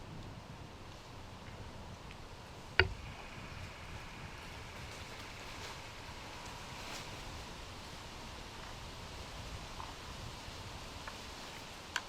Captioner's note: wind blowing